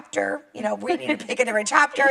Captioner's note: laughs